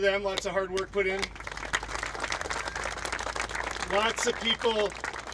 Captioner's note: applauding